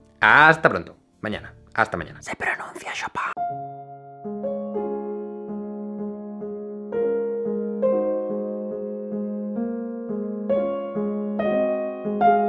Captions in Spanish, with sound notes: Hasta pronto...mañana, hasta mañana. Se pronuncia Chopin (susurro)